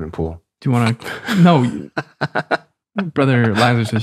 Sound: snickers

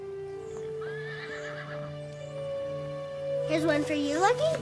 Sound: horse whinnying

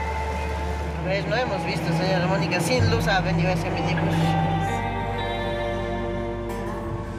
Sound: speaking in foreign language

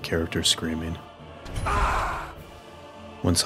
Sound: scream

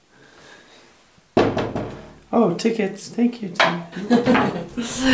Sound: knocking on glass; mom laughing

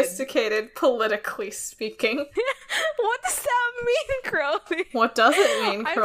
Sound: laughs

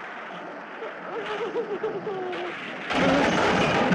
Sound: crying

